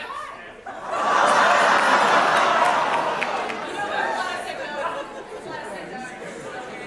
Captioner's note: big audience reaction